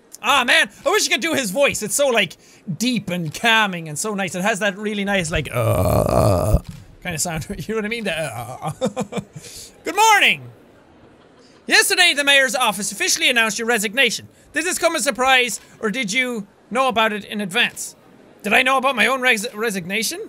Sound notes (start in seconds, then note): 5.2 groans; 8.2 chuckles; 8.7 groans